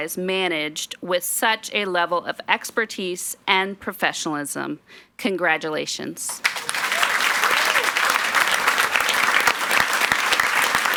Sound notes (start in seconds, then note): 6.4 audience applauds